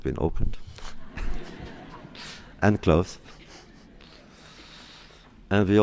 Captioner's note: laughter